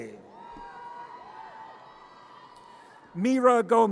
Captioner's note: audience cheers